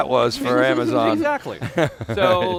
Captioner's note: laugh